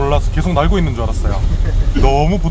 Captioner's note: haha